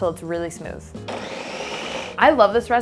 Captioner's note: blender whirring